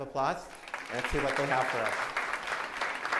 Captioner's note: applause